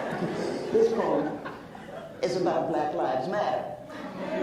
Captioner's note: laughs